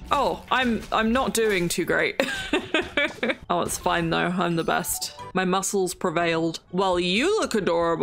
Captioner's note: laughs